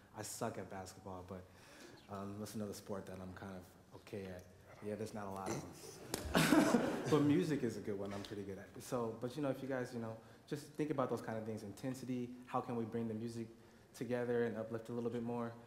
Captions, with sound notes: I suck at basketball, but what's another sport that I'm kind of okay? Yeah, there's not [laughs] a lot of them [laughter]. But music is a good one I'm pretty good at. But, you know, if you guys, you know, just think about those kind of things, intensity, how can we bring the music together and uplift a little bit more?